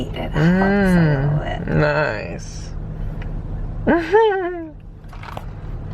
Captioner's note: laughs